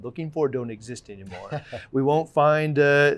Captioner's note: laughing